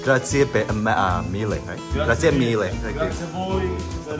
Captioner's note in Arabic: الإيطالية